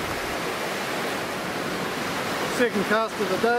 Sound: waves crashing

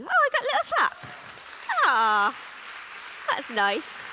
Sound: applause

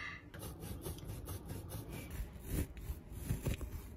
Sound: soft sawing sounds

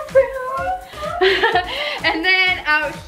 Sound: laughs

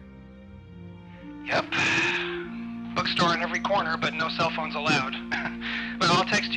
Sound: JUSTIN, sighs; laughs

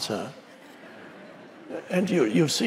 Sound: audience laughs

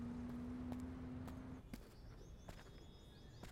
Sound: none

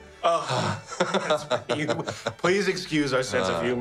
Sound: both sigh; laughs

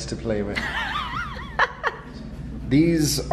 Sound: laughs

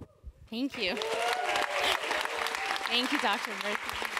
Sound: applause

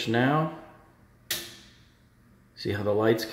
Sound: switch clicking

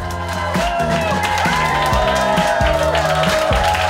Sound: crowd cheers

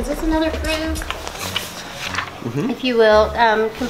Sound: papers shuffling

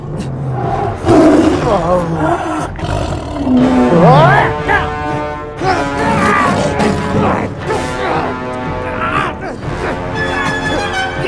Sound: Mason screams in pain

